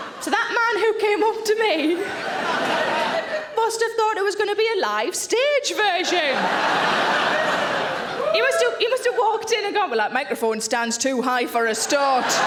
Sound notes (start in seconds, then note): 5.8 audience laughing